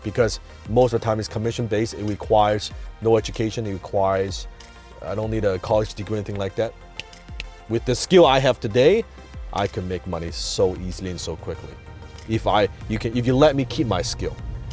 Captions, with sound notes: Because most of the time, it's commission-based, it requires no education, it requires I don't need a college degree or anything like that. (finger snapping) With the skill I have today, I could make money so easily and so quickly, if you let me keep my skill.